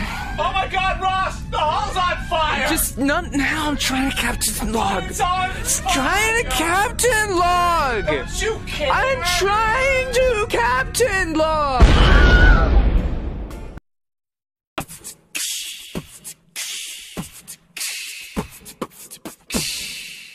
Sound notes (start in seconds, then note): 11.8 explosion noise; 11.8 Winhelm scream